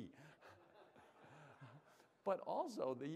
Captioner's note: laughter